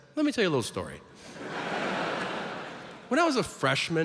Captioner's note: audience laughs